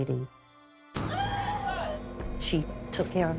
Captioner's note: distorted voices